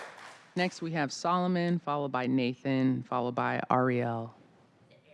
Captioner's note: applause